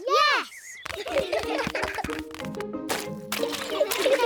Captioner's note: all giggling